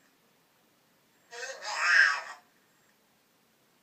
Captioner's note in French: voix normale